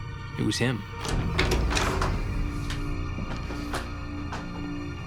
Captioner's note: door opens